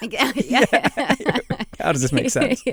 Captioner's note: laughter